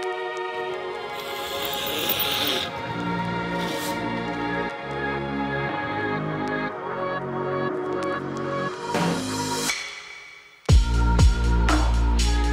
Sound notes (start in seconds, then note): 1.2 cutter zipping; 3.6 tape ripping; 10.7 upbeat music